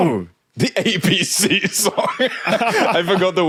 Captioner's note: laughs